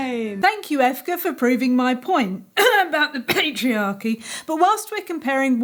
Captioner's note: hides words behind cough